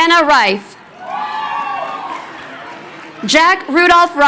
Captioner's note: crowd cheering